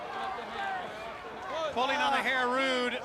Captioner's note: crowd chatter